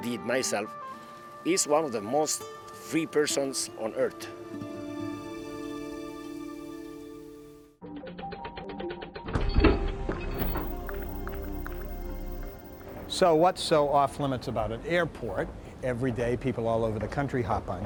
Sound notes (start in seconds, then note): 10.3 vault Opening